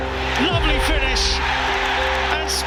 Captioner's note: crowd erupts